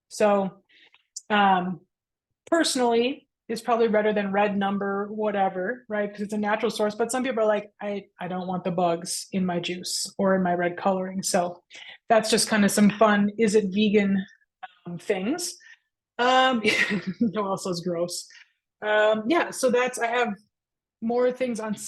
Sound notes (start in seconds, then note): 16.8 laughs